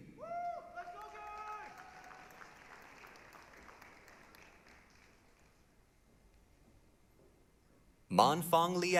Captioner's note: applause, cheering